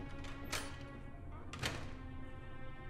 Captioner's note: none